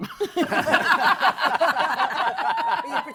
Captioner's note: laughter